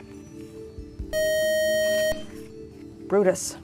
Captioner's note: beeping